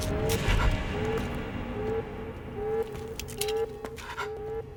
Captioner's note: alarm blaring; intense music continues